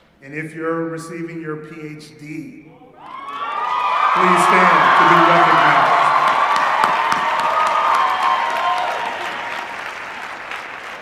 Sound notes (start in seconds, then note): 2.3 cheering; 5.7 cheering and applause